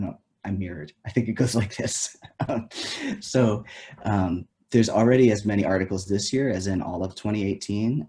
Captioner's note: laughs